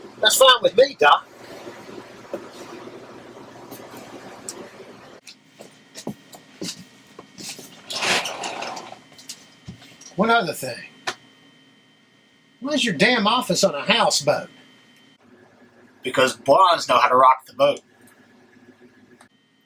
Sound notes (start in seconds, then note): 5.2 footsteps shuffling; 7.6 door clatters open